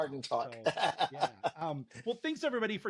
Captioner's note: laughs